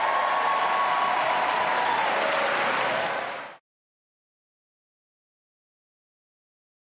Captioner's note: cheers and applause